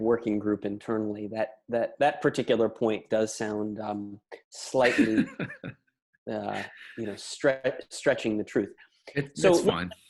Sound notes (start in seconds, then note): 4.8 laughs